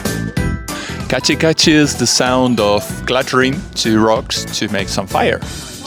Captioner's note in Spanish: en japonés